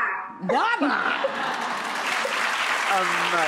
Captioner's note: applause